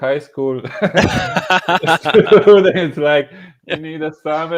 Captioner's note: laughing